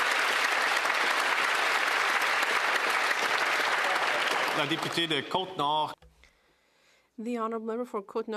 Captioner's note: some Applause